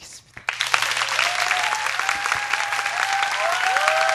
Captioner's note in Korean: 박수